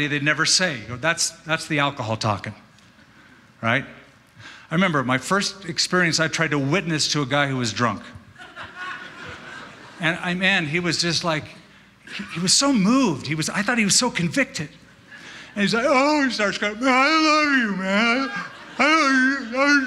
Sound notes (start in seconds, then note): 15.2 crying sound; 16.4 slurring